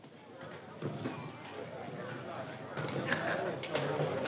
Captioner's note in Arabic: ثرثرة الحشد